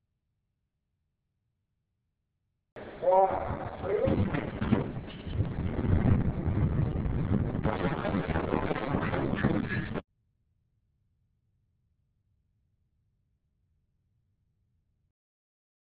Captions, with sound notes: ...one, RELEASE! [ WIND NOISE ] [ CRASH ]